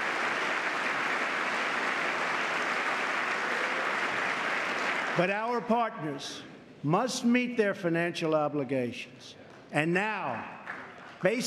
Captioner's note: applause